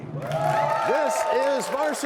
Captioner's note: cheers and applause